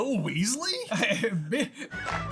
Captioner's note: laughs